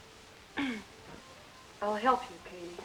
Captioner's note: clears throat